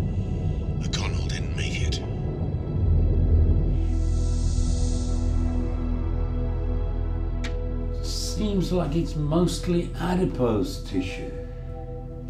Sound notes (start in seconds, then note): 2.8 air hissing; 2.8 obscure music